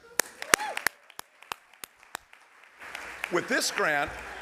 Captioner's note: applause